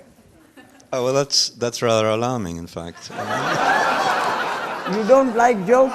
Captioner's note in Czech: smích